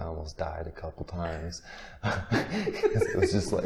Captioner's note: interviewer laughing